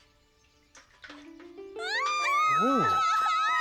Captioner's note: daughters' screams